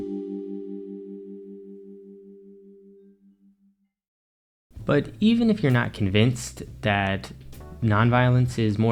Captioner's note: transition Ding